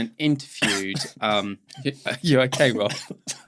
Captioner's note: coughing; laughing